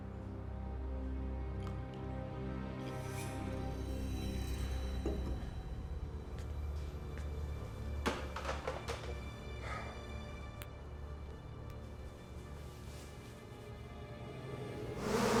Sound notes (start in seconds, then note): 9.6 sighs